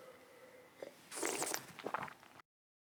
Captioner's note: slurps